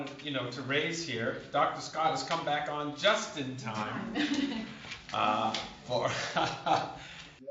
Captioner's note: laughter